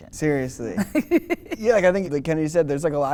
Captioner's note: laughter